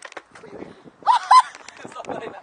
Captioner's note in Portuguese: Risos